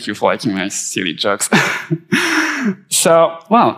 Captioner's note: chuckles; laughing gently